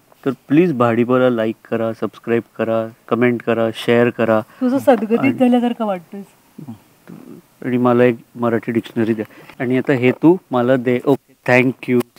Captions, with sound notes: Please Subscribe to BhaDiPa, Like, Share and Comment. (speaks very difficult Marathi) And give me one Marathi dictionary. And now you give me this,, Ok thank you.